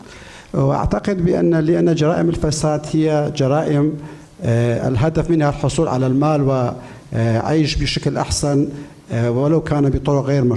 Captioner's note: speaking in foreign language